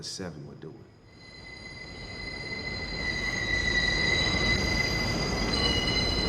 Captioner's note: train wheels screeching